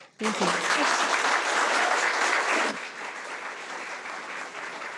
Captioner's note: audience applauding